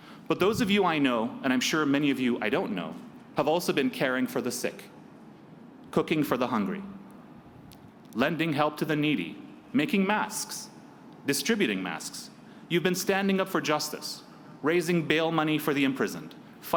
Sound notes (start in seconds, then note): none